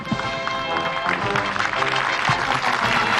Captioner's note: applause